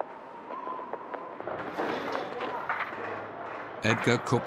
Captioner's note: wind whistling